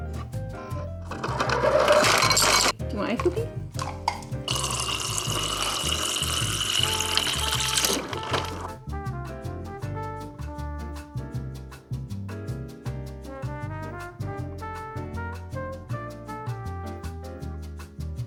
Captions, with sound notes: (dropping ice cubes into glass) - You want ice Spooky? (water splashing) (gentle music)